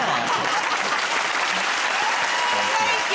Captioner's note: cheers and applause